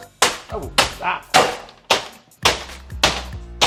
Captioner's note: loud banging